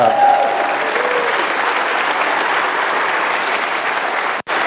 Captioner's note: applause